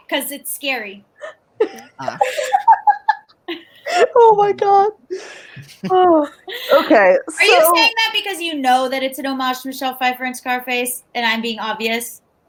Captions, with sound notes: 'Cause it's scary. - Ah. (laughing) - Oh, my God. (sighs) Okay, so-- - Are you saying that because you know that it's an homage to Michelle Pfeiffer in "Scarface" and I'm being obvious?